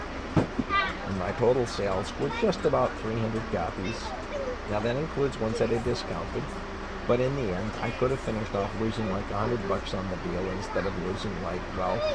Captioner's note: laughs